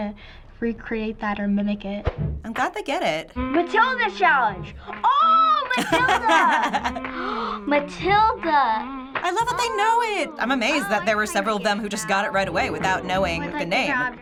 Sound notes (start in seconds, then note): 7.0 gasping